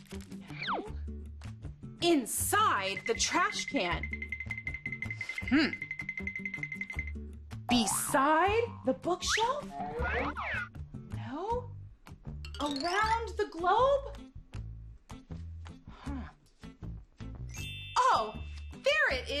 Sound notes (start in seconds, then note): 4.1 twinkling sounds; 9.7 high-low sound; 12.0 twinkling sounds